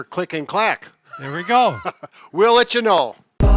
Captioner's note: laughs